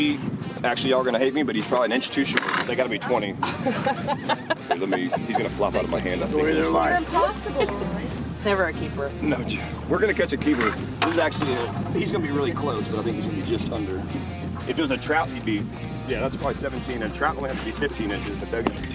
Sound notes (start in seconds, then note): 3.4 woman laughing